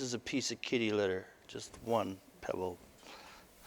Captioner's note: none